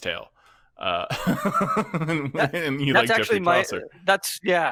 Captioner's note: laughs